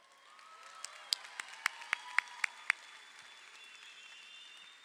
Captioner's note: crowd applauding